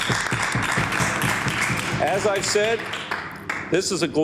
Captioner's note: applause